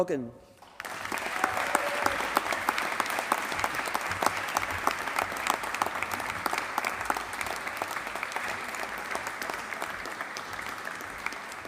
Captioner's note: applause